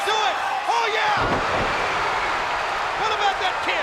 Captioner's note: crowd cheering